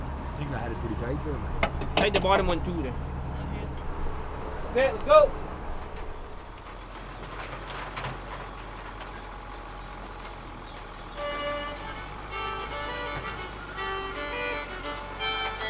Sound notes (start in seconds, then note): 7.2 machinery squealing; 13.1 folk music